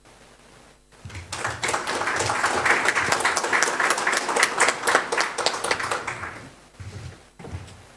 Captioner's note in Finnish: Aplodeja